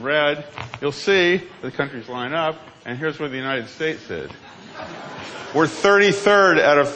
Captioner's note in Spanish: risas